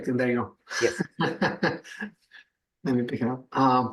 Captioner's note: laughs